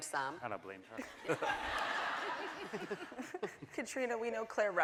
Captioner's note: laughing